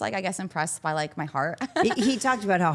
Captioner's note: chuckles